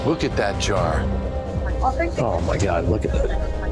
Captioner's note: chatter